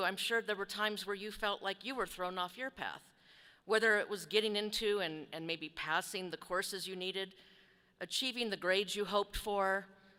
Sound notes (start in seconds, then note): none